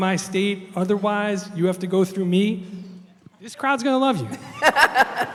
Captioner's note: laughter